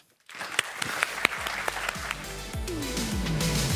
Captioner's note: audience applauding; soft electronic music playing